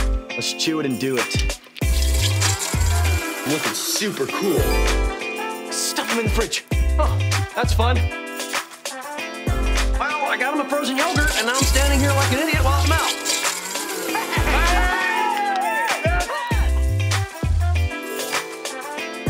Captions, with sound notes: Let's chew it and do it. Looking super cool. Stuff him in the fridge. Oh, that's fun. Well, I got him a frozen yogurt, and now I'm standing here like an idiot, while it melts. [cheering]